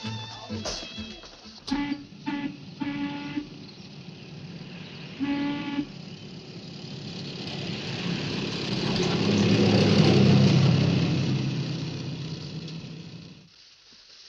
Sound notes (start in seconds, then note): 2.5 steam whistle blowing; 7.7 bus engine whirring